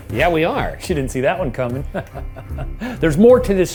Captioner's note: chuckles